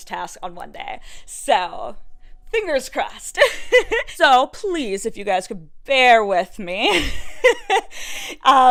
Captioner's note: sweet gigglies